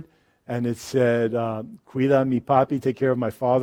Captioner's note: speaks in foreign language